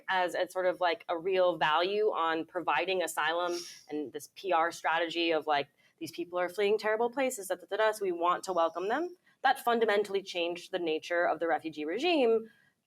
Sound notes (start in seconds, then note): 7.5 mumbles